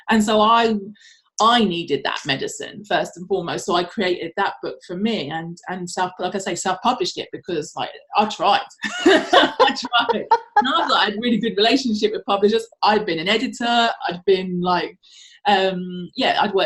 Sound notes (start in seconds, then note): 9.0 laughs